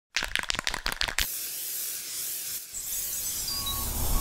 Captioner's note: spray can rattling; spray paint hissing; construction vehicle beeping